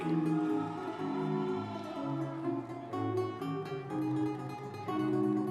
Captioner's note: audience members cheering